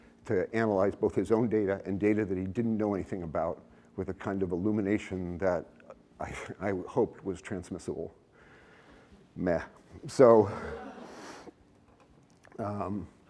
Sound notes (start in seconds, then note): 10.4 laughter